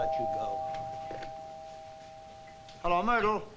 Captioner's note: doorbell